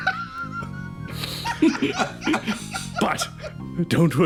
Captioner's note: laughs